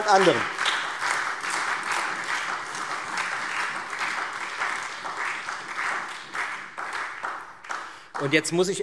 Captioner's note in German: Beifall Freie Demokraten, SPD, AfD und DIE LINKE